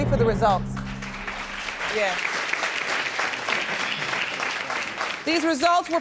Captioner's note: applauding